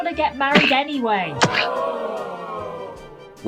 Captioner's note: crowd: shocked gasp